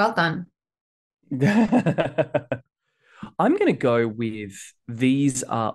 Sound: laughs

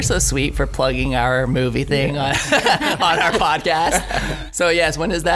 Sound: laughs

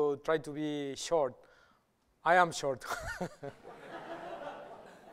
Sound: laughter

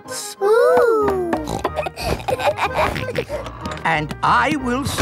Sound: snorts, laughs

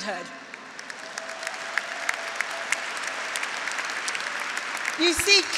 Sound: graduates applauding; graduates cheering

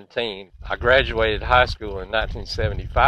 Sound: wind blowing softly

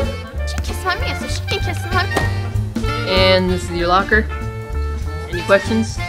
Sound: whack

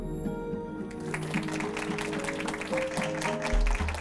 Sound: applause

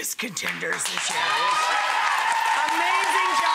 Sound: audience applauding

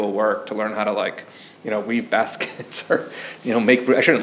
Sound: chuckles

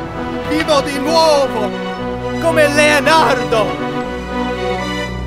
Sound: Leo in Italian

